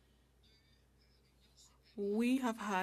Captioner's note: speaking French